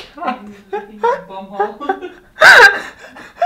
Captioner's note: laughing